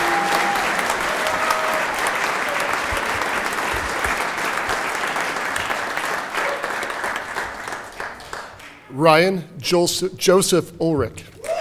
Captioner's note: cheering and Applause